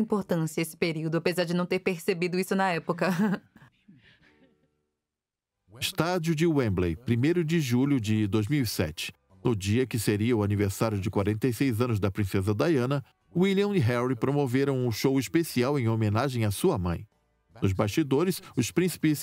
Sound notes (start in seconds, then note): 3.0 laughing; 5.3 voiceover